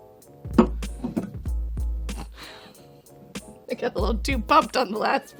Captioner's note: chuckles; sets glass on table